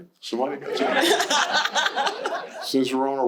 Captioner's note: laughter